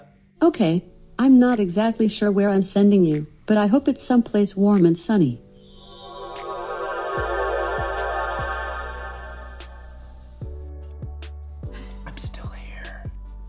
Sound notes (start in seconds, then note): 5.6 ethereal tinkling; 8.8 gentle music